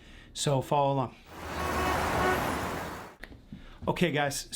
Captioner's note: car hooting